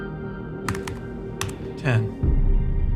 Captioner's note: computer keys clacking